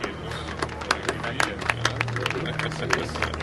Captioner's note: Всички ръкопляскания